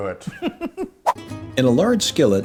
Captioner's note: giggles